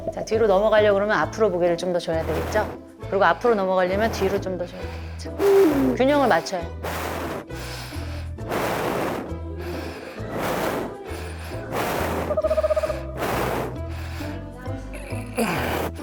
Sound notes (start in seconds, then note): 2.3 heaving breathing; 5.3 rough breathing from somewhere; 8.3 panting; 10.2 wheeze; 12.3 someone breathing hard but not moving